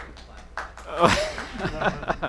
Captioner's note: light applause; laughter